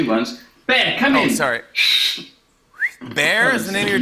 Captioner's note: whistles